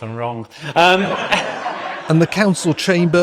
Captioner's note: laughter